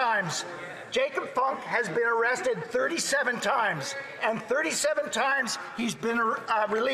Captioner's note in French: voix de l'interprète